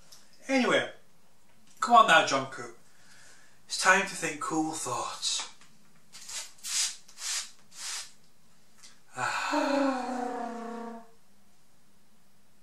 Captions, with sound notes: Anyway, come on now, John Coo, it's time to think Cool Thoughts! *Sigh & cooing*